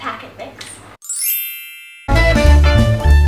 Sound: chime

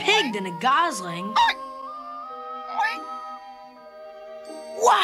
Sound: oink

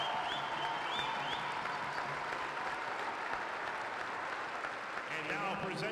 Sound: cheering

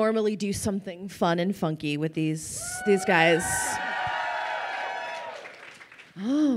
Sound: crowd cheering

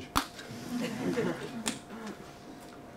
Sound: laughter

